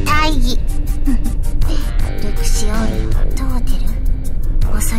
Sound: chuckle

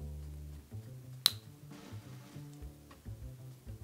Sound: swab snaps

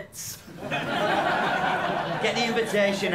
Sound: laughter

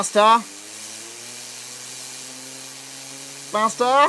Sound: whirring

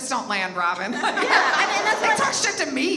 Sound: audience laughs

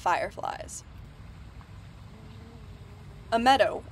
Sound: stream babbling, bee buzzing

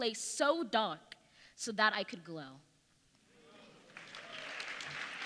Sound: applause

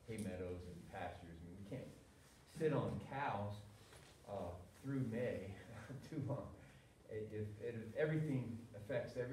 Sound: laughter

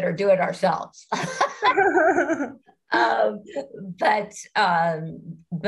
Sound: participants laughing

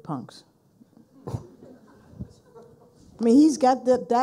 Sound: people laughing

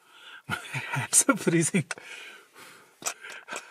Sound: laughs

